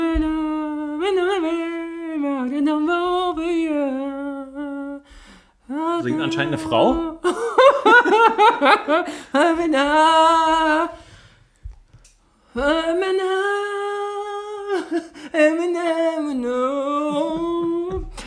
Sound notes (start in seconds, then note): 7.3 laughs